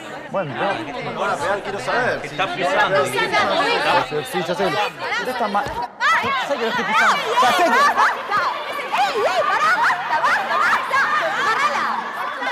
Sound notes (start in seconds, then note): 6.0 Kiabálás